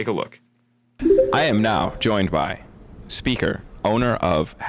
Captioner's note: bell chiming